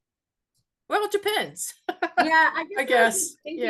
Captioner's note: chuckles